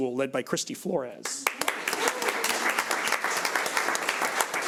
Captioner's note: audience applauds